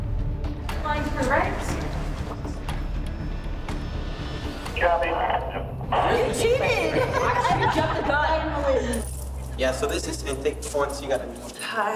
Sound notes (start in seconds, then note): 2.3 dramatic music; 5.9 inmate chatter and laughing